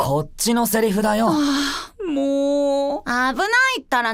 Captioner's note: sigh